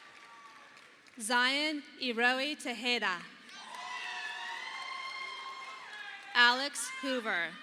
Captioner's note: audience applauding